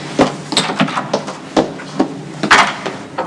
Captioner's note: Carol muttering; door closes